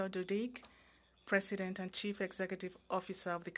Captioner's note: speaking French